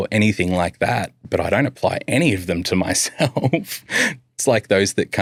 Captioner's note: laughs